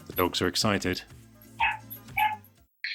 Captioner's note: more barking